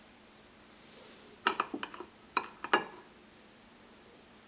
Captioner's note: knife on bowl scraping